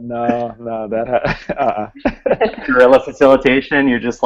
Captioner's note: laughing